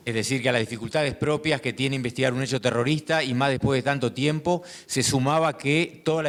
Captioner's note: speaking in foreign language